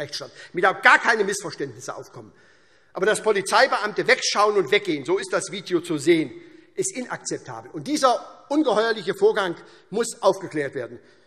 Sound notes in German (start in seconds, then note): none